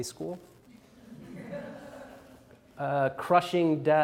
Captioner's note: audience laughs